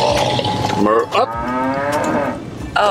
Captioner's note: cow moos